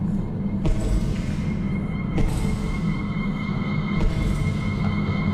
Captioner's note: footsteps thundering